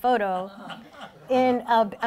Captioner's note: laughing